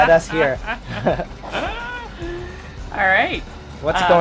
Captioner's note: laughs